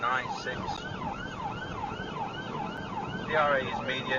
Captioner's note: police car siren